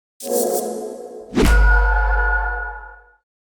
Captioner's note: mystical ring